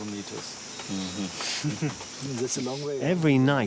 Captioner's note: chuckles